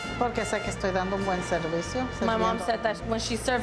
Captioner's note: speaking in Spanish